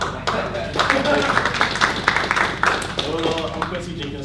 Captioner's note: audience applauds; laughter